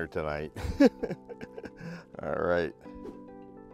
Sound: laughing

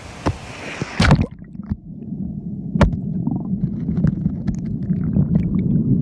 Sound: water pouring from lock, then thuds with underwater sounds

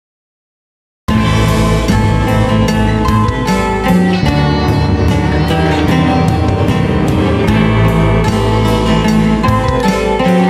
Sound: sound of demons

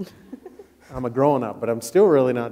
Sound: people laughing

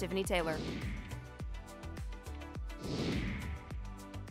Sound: air whooshes

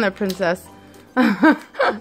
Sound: laugh

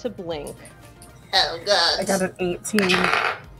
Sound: nasally

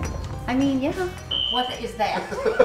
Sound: whistle blowing; husband laughing

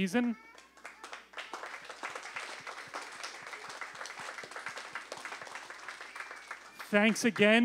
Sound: applause

